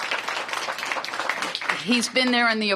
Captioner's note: applause